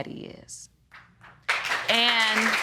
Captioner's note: applause